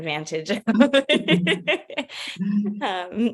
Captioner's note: laughter